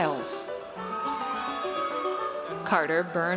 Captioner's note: audience cheers